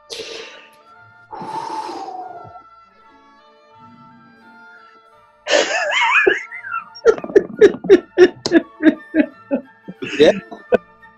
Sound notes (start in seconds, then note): 1.3 exhales; 5.6 quiet giggling